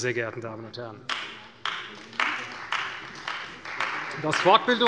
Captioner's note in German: Beifall bei der CDU